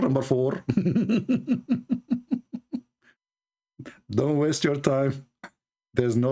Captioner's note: Ketawa